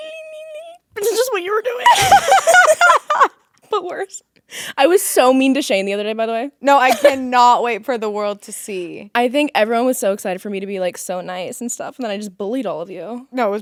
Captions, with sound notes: - De la ling ling. This is what you were doing. (both laughing) But worse. I was so mean to Shane the other day, by the way. - No, I cannot wait for the world to see. - I think everyone was so excited for me to be like so nice and stuff and then I just bullied all of you.